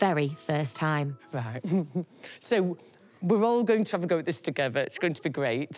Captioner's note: laughs